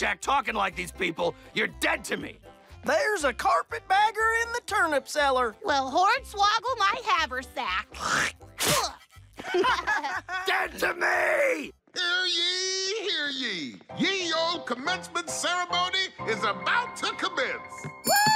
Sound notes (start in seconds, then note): 7.9 both spit; 18.0 bell ringing